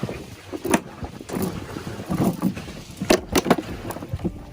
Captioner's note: chain rattling